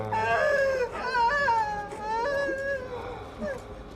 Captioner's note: Donovan choking; Sara sobbing